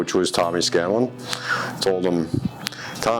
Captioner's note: lips smacking